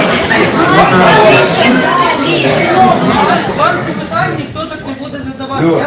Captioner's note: noise in the hall